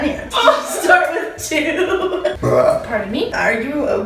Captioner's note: laughs; belches